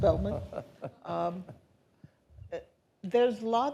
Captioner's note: laughing